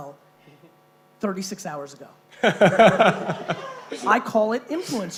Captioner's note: laughing